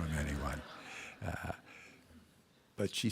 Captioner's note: laughter